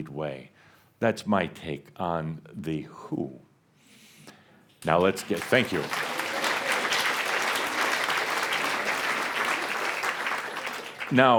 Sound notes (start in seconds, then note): 4.9 audience applause